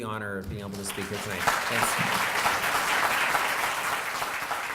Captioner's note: applause